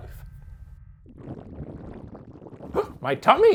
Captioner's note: stomach gurgling